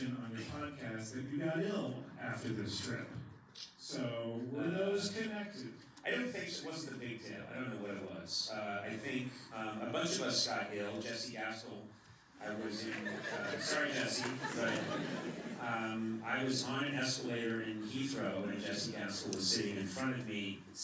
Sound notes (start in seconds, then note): 12.5 laughter